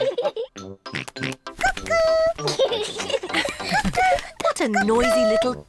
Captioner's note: both laugh; oinks; both laugh